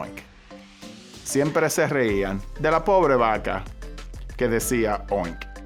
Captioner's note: speaking Spanish